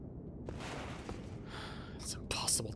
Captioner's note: sigh